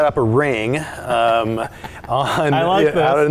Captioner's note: laugh